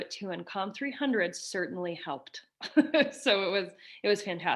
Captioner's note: chuckles